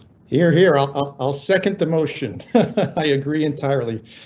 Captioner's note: laughing